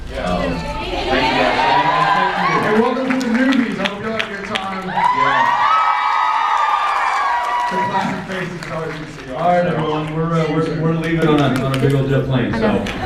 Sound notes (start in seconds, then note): 3.3 cheers, applauds; 4.7 applauds; 5.5 cheers; 9.8 applauds; 12.7 cheers, applauds